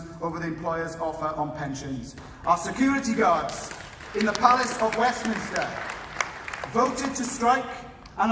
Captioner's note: applause